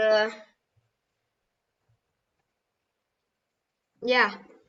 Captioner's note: silence